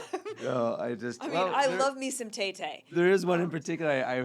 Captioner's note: laughing